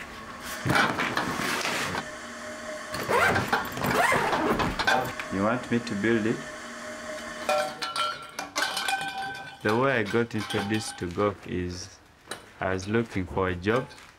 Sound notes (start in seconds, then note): none